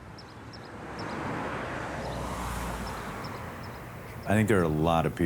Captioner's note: traffic bustling